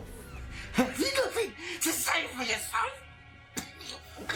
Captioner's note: coughs; tense music